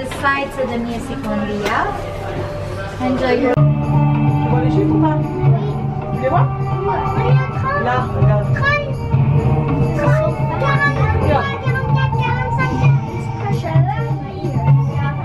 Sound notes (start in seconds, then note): 3.5 arabic music; 4.5 excited chatting